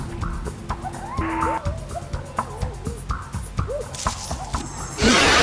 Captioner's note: howling; growling